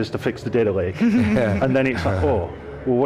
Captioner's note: laughter